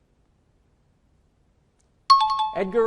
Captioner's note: out of time alarm